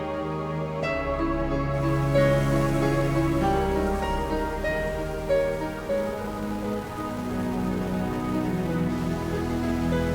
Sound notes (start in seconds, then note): 2.1 leaves rustle; 2.1 wind blows